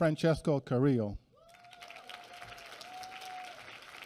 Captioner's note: applause